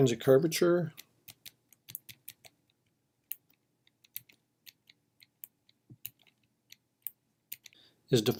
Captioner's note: typing